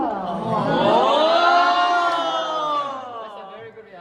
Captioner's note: everyone exclaims